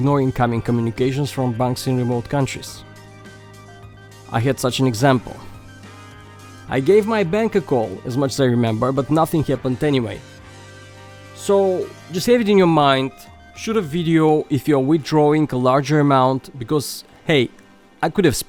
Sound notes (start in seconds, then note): none